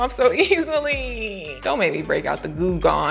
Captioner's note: moans